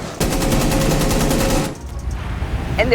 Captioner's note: gunshots